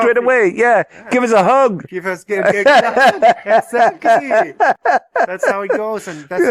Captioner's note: laughter